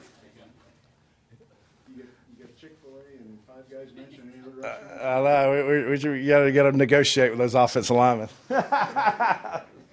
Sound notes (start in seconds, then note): 8.5 laughs